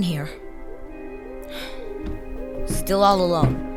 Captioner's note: sighs deeply; footsteps